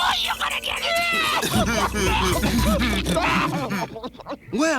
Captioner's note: laughing